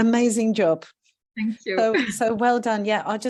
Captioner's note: chuckles